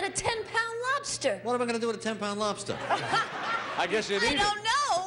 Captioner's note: laughing